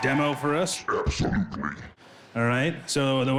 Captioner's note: monstrous voice